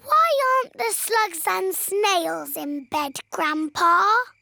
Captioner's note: none